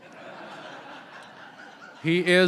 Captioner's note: laughter